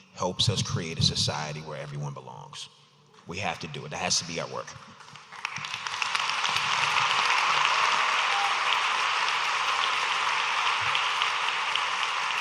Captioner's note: audience applauding